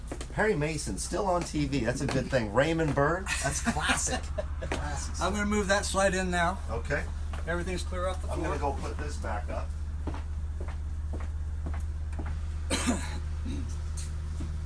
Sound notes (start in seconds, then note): 3.2 laughs